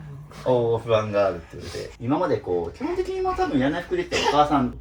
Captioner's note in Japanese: 鼻息